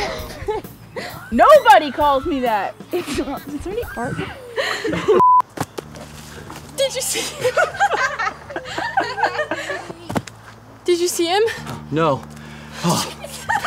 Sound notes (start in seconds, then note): 0.0 laughing; 6.8 laughing; 12.8 laughing